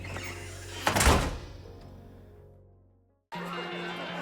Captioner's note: door thuds; crowd chattering; bright upbeat music